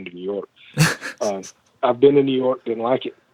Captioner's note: laughs